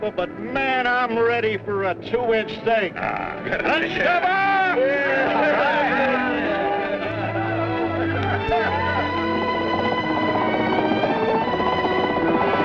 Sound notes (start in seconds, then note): 3.8 all cheering; 7.0 triumphant orchestral music; 9.8 boat puttering